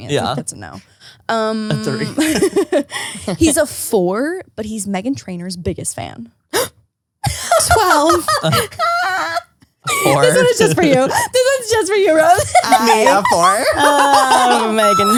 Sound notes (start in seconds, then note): 6.7 gasps; 7.2 laughs; 12.1 laughs